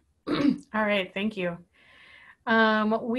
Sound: clearing voice

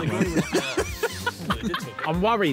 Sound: Chris laughing

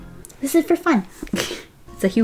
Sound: laughs

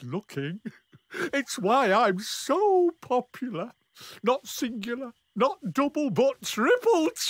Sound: chuckles

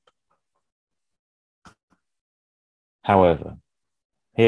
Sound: mouse clicks

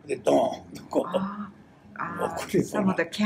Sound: foreign language

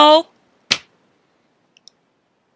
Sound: slams fist on table

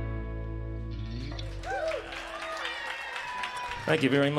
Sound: trailing note of steel guitar; applause

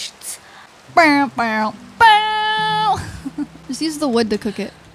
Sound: imitating dramatic music

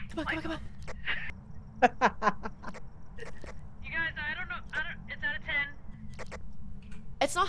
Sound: laugh

